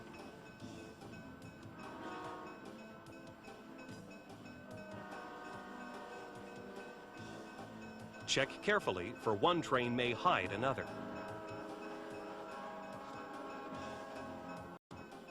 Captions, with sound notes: - [Voiceover] Check carefully, for one train may hide another. (train horn)